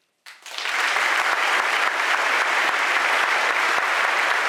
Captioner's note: audience applauding